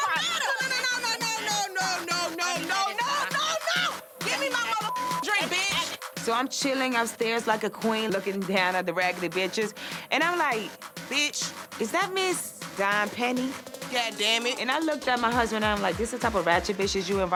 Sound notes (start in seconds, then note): 4.7 beep